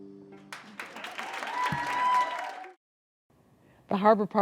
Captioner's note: applause